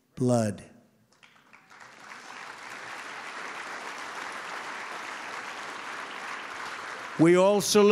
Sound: applause

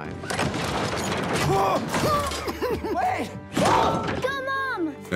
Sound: wincing

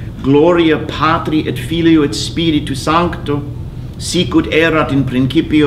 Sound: speaking in foreign language

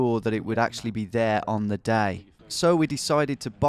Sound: none

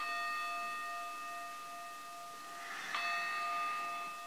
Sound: alarm's bells ringing

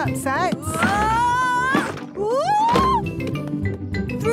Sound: wood teetering

